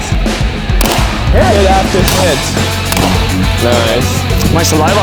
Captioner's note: rock music; gun bangs